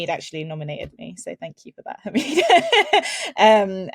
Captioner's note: laughs